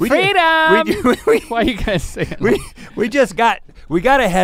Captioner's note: Rhett laughs